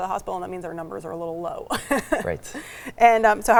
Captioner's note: laughs